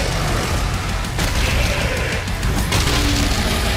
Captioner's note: roars